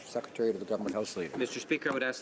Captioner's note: speaking French